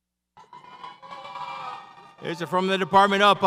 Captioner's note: audience cheers